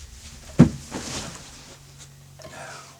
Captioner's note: scuffling